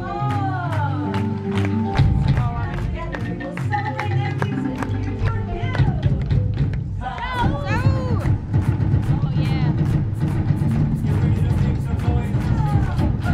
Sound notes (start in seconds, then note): 1.0 clapping; 6.1 drumming